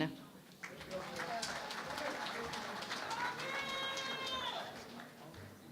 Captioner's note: cheering and Applause